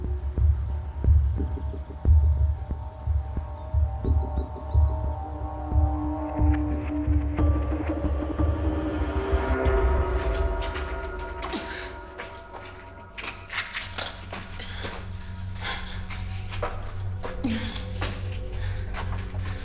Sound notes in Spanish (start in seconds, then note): 16.2 Quejidos